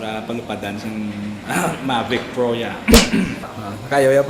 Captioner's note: drone